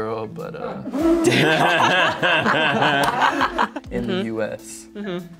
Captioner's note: laughter